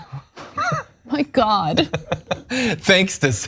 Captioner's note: laugh